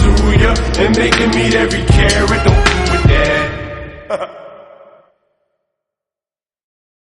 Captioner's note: haha